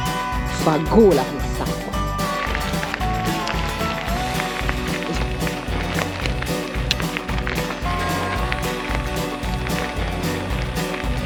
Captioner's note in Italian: Applauso